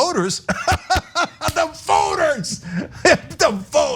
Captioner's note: laugh